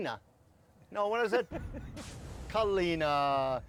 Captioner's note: laughing